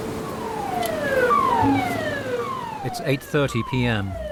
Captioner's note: waves crashing; sirens blaring